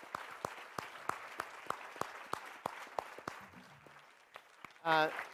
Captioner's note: applause